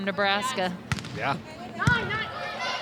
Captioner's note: ball thumping; players shouting indistinctly